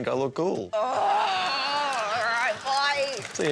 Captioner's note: groans